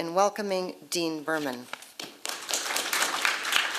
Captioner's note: applause